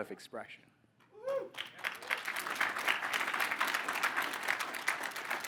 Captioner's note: audience applauding